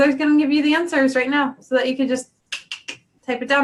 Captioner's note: clicks